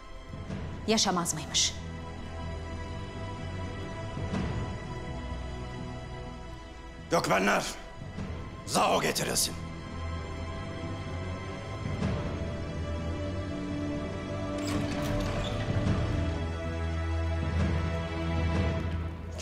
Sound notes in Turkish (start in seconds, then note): 14.4 Kapı açılma sesi